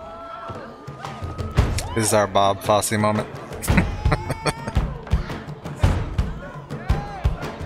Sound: laughing

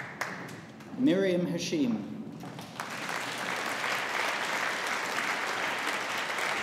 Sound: audience applauding

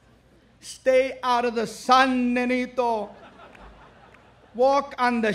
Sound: speaks foreign language; speaks foreign language

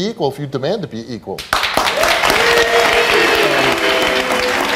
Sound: audience applauding

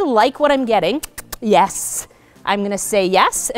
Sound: kissing sounds

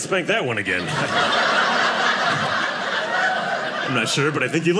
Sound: audience laughing

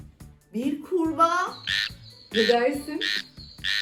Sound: frog voice

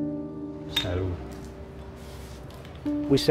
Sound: speaking in foreign language

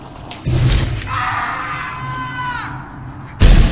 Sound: screaming; ominous music

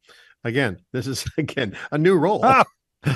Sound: laughs

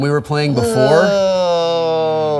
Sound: groans

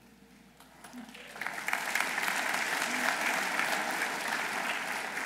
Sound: audience applauding

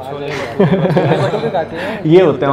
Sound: laughing

